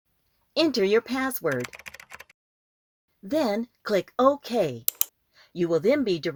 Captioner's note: SFX typing